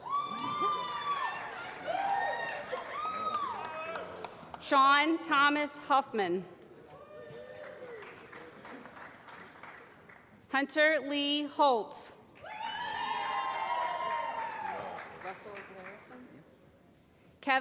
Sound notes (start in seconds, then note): 0.0 applause; 7.4 applause; 12.4 applause